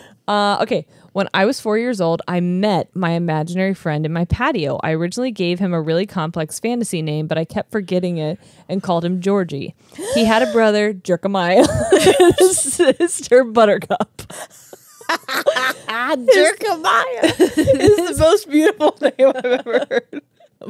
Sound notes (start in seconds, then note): 9.8 gasps; 11.6 laugh; 14.3 cackles; 17.1 laughs